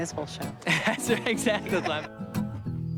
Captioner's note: laughing; rhythmic strumming